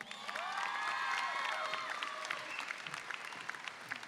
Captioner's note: audience cheers